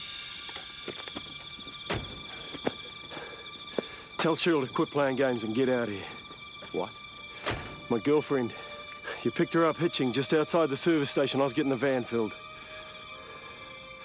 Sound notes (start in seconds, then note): 0.1 suspenseful music; 1.7 car door thuds; 3.6 Andy panting; 7.3 car door thuds; 13.8 crickets chirping; 13.8 suspenseful music